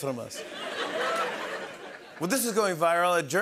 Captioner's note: laughter